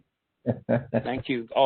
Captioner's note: laughing